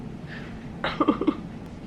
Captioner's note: chuckling